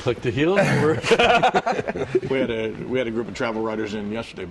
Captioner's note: laughter